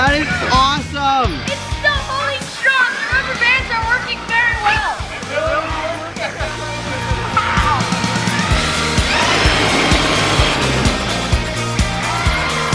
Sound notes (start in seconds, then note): 7.1 all exclaiming; 9.2 RC truck accelerating